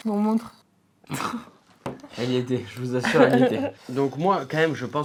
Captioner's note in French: rires